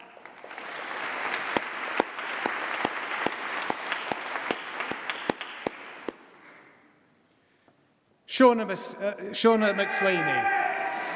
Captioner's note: applause